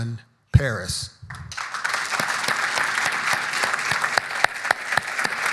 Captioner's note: audience applauding